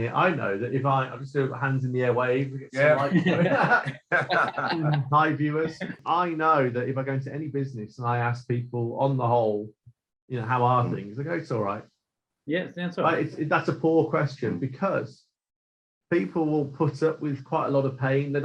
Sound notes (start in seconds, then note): 5.2 all laughing